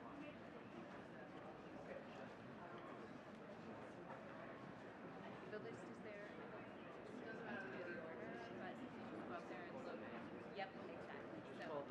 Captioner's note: faintly speaking